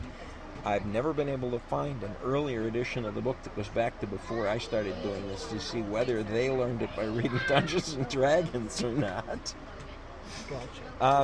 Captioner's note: laughs